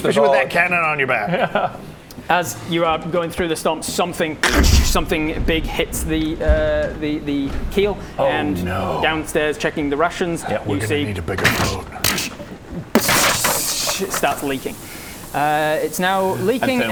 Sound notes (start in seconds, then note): 4.4 krrssch; 12.9 psssschshhhshhhhhh